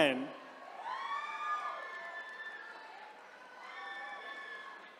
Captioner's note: attendees cheering